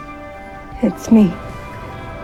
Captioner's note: voiceover